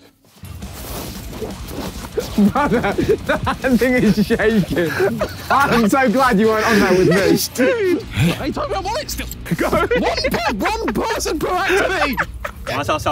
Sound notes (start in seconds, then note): 0.5 epic music begins; 3.3 laughs; 9.7 laughs; 11.9 Tobi laughing